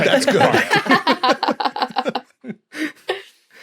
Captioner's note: guests laughing